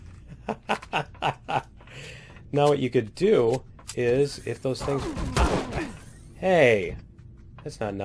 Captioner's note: laughs; alien gunfire